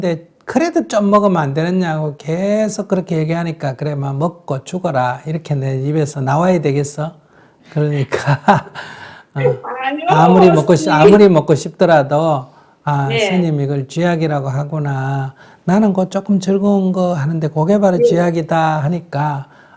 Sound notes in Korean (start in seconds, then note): 8.1 웃음; 9.4 질문자 웃음